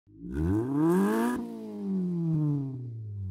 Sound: engine revs

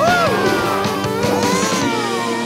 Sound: laughing; mooing

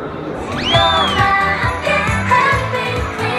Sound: swing

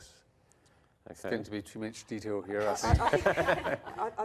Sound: laughter

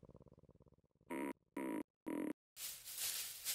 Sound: tugging; rustling

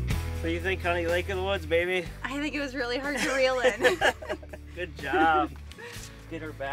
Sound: laughing

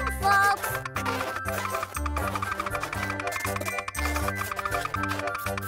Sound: box clicking and creaking

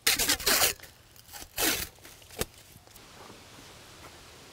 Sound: tape ripping

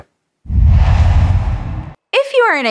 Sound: logo swooshes

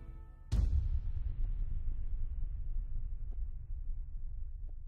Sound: suspense music; explosion sound effect

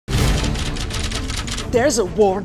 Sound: typewriter clicks

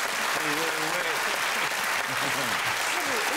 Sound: laughter and applause continue

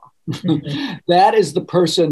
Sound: laughing

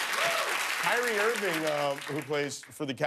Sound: laughter and applause

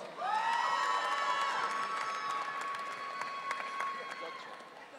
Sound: audience cheering

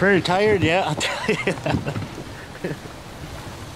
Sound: chuckle

